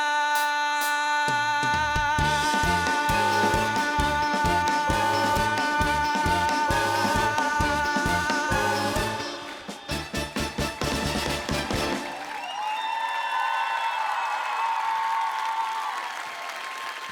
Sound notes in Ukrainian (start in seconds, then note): 7.7 оплески